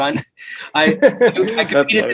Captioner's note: both men laugh